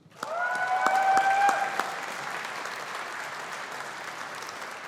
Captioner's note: audience applauding